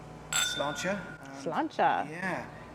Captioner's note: glasses clink